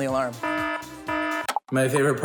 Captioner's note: klaxon alarm blares; clicks